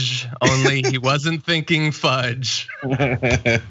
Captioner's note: laugh